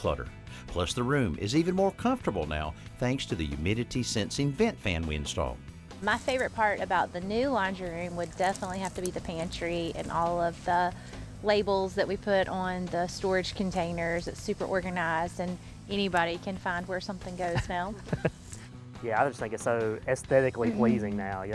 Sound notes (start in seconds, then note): 17.4 chuckles